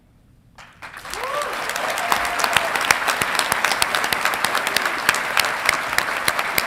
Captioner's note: audience clapping and cheering